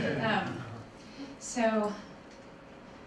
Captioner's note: laughter